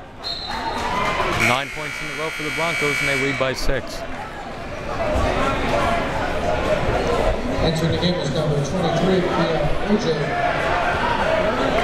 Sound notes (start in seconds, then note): 1.4 whistle tweeting; 5.9 crowd members talking